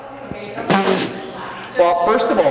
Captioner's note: laughs; sputters